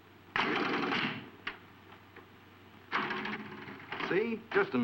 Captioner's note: coin clanking; pinball machine thudding